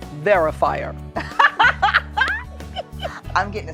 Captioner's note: laughs